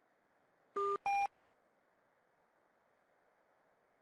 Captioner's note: beep